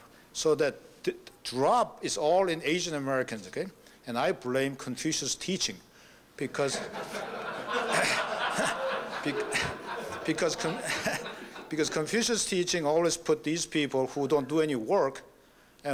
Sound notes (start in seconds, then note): 6.6 laughter